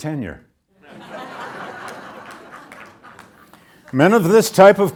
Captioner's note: audience laughs